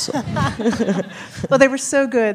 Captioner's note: laughs